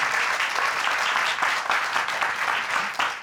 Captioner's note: audience cheering